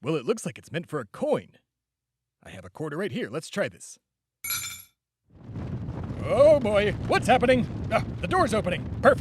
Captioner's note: rumbling